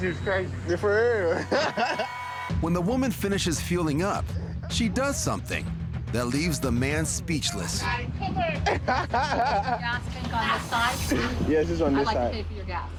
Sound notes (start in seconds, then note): 1.3 man laughs; 8.6 man laughs